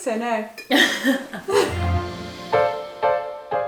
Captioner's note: both laugh; relaxing jazz music